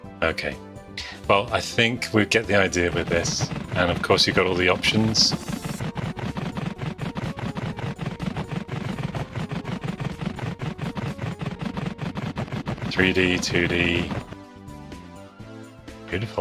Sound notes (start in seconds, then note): 7.2 video game noises